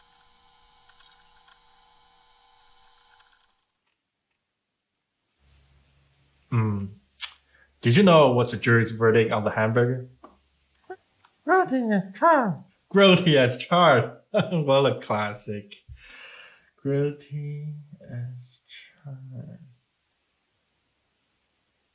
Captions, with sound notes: Mm-hmm, did you know what's a jury's verdict of the hamburger? - Grilled cheese as charged. Grilled cheese as charged, (laughs) What a classic. Grilled cheese as charged.